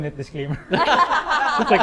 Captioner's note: laughs